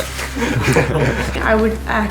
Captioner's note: laughing